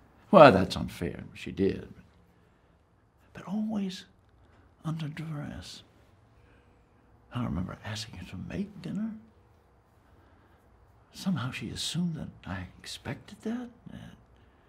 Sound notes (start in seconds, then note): none